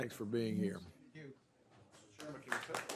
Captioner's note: applause